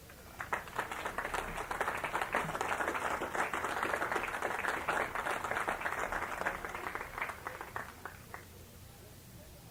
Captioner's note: applause